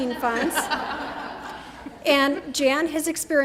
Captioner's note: laughter